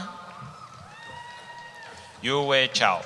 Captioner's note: cheering